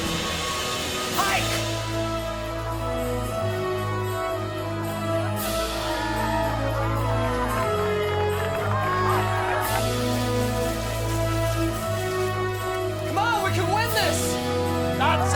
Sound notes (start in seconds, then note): 6.9 applauding; 6.9 crowd cheering